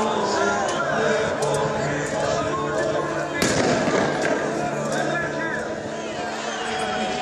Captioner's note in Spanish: Gritos y detonaciones